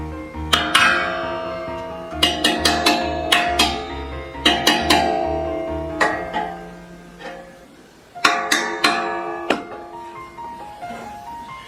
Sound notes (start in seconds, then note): 0.5 sound of my hand striking tray